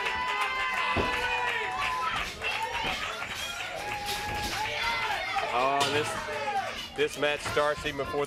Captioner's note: crowd cheering